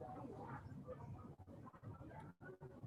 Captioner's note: none